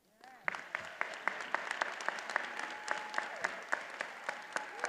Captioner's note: attendees applauding